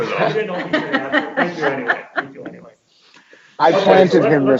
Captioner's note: faint chattering